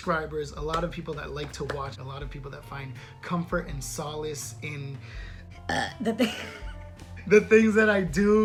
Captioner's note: unexpected belch